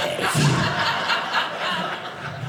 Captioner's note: audience laughing